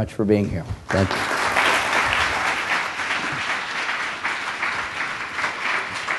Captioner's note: applause